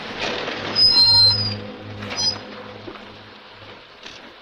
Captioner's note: brakes squeal